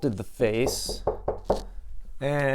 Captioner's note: knocking